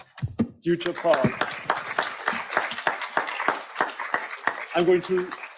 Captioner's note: audience applauds